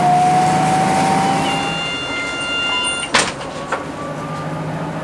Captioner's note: TIBS DOOR CLOSING Buzz